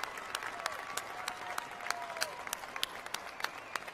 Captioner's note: cheers and applause